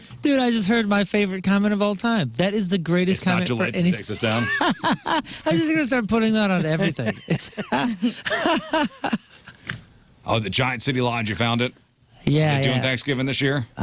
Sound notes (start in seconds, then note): 4.0 laughing